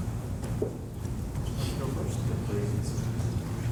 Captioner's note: voiceover